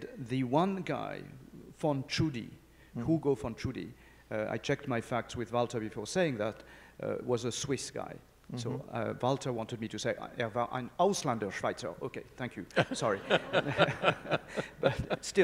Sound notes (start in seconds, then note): 10.5 speaks in foreign language; 12.8 audience chuckling